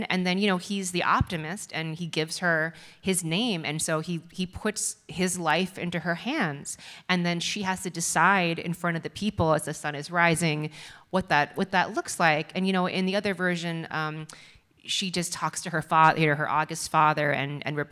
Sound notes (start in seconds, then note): none